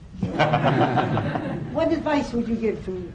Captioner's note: laughter